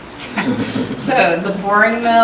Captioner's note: chuckling